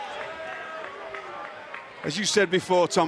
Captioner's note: crowd clapping